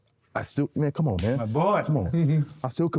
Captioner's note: hands clapping